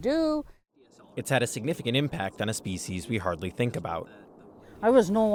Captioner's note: voice-over